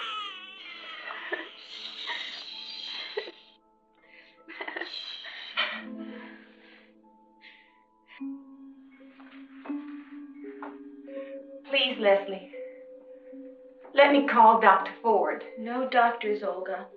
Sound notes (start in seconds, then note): 1.5 shushing softly; 8.1 eerie music